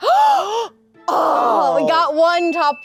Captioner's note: gasp